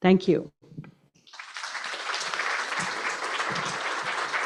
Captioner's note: applause